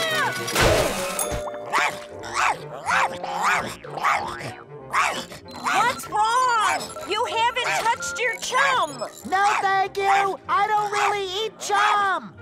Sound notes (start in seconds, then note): 2.2 barking